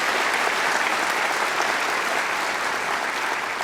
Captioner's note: applause